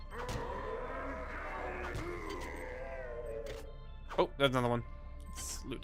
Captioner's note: roars